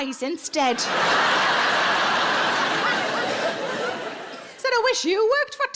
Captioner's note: audience laughing